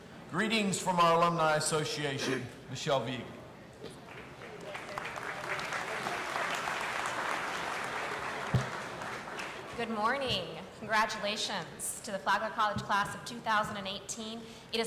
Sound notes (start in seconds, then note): 4.0 audience applauding